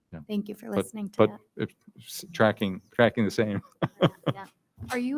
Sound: laughs

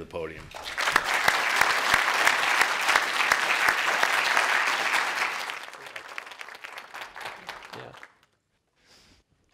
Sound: applause

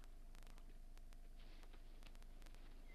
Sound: plants rustling; birds chirping

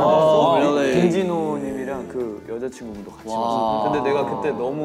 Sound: speaking in Korean

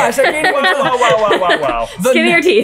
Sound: laughing

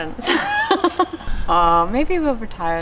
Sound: both laugh

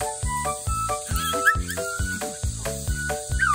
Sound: whining

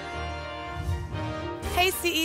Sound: whoosh

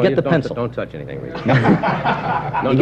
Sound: laughter

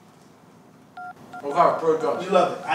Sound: dialing

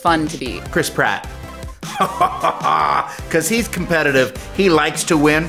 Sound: laughs

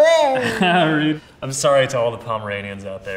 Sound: laughs

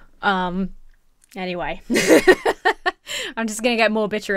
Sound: laughs

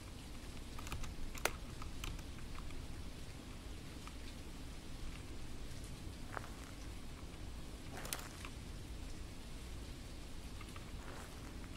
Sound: hissing sound

